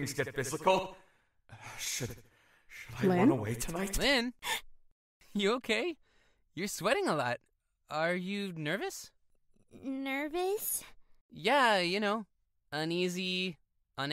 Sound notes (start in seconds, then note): 5.5 startled gasp